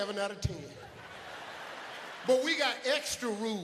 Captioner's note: audience laughs